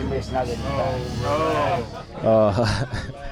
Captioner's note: light laughing